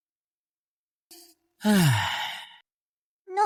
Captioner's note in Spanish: Suspiro